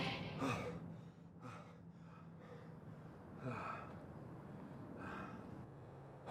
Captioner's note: Charles groaning